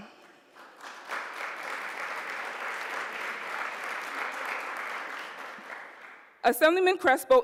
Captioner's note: applause